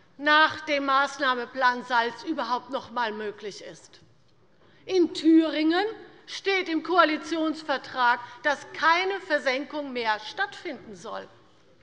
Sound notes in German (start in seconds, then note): none